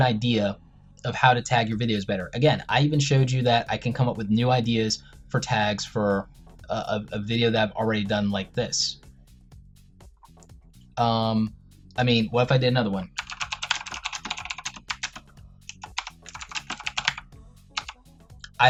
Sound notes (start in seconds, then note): 15.6 intense typing